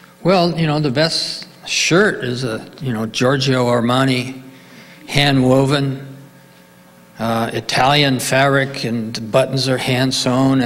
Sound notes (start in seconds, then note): none